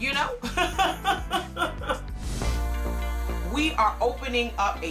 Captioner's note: laughs